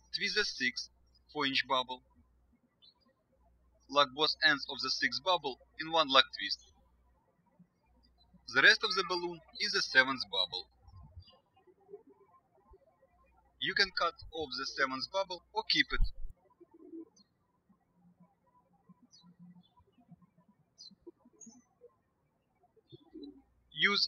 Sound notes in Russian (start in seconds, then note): 7.9 птички щебечут; 18.1 птички щебечут